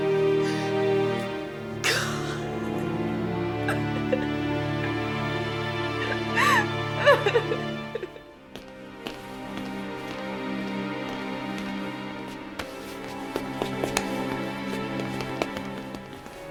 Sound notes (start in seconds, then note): 1.8 Trudy sobs; 10.4 soft music